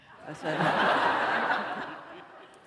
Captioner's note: laughter